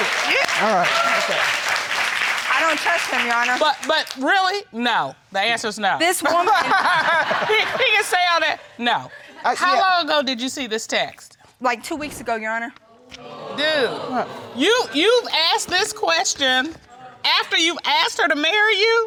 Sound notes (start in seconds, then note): 6.4 audience laughing